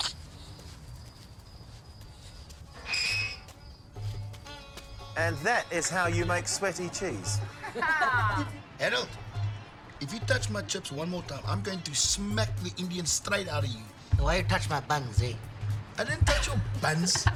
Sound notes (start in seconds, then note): 0.0 Lukas clicks tongue; 2.8 gate screeches